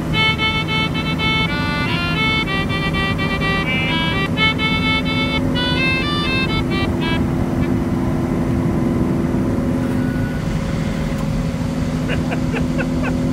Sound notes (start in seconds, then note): 7.2 key gets stuck again; 9.6 blowing; 12.0 laughing